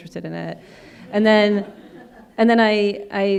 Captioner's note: audience laughing